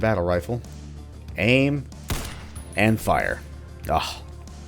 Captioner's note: boom